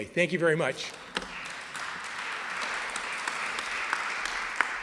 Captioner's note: applause